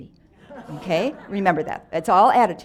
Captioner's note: audience laughs